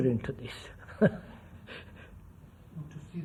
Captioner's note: laughs